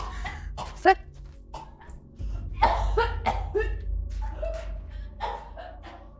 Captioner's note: coughing violently